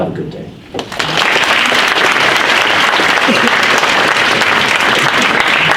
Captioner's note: audience applauds